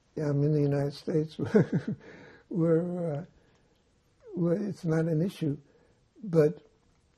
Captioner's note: laughing